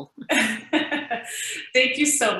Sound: laughing

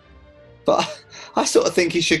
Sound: laughing

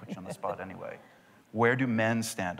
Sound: laughter

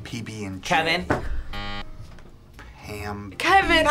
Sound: buzzer

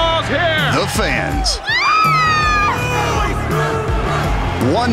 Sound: cheering

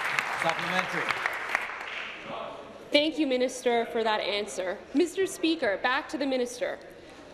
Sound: applause

